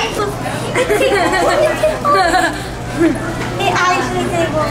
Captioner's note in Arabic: الأطفال يضحكون